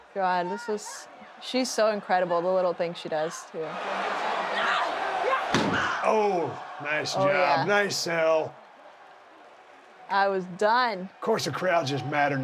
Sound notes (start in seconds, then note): 4.5 Bayley groaning; 4.5 crowd cheering